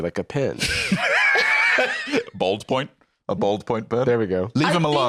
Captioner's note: laughs